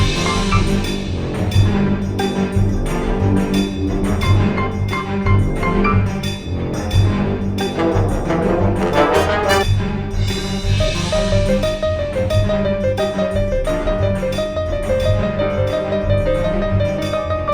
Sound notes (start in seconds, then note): none